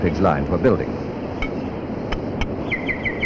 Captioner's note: sound of tools